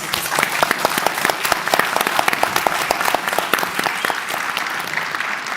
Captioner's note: applause